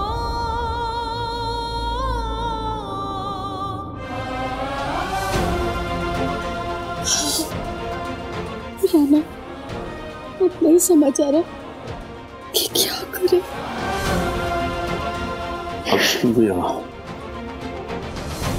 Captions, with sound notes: [sobs] Rana, I don't know what to do now. Everything will be fine.